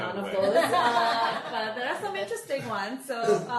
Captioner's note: group laughing